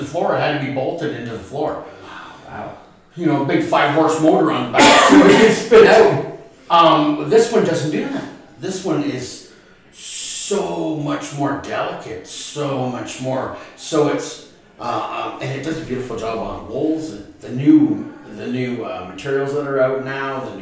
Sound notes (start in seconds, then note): 4.7 coughing